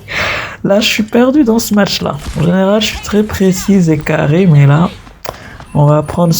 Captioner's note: laughs